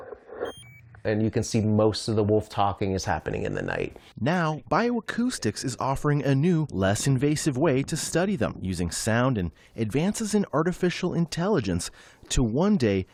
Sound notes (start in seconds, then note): 4.7 voice-over